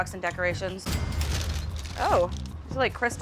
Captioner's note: cash register dings